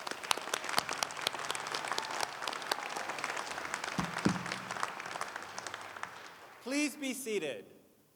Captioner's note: applause